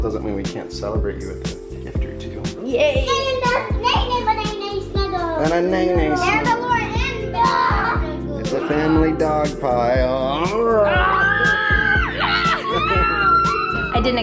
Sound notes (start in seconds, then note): 10.2 kids screaming and laughing; 10.7 growling